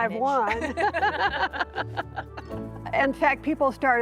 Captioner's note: laughter